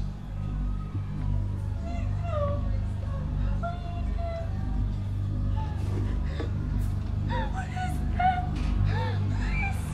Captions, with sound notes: - No, please. Please don't. Stop. (whimpering) What is that?